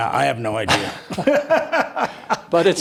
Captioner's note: both laugh